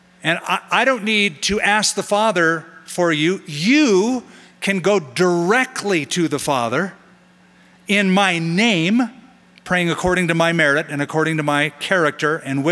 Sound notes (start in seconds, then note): none